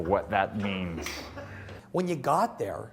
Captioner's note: interviewer laughs